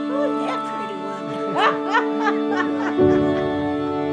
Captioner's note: laughs